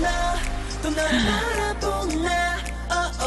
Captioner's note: gasp